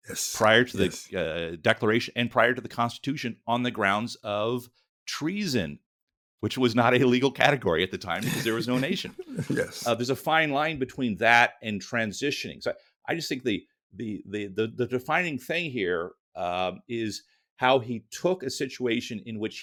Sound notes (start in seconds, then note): 8.2 laughs